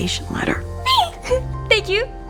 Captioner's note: giggles